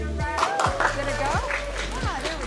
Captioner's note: audience clapping